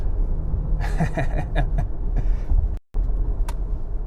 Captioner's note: man laughs